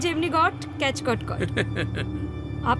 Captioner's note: laughter